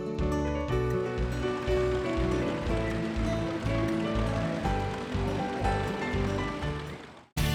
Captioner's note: sound of tractor running